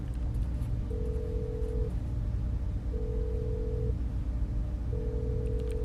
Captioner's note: phone line ringing